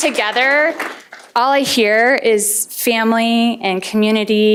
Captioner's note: applause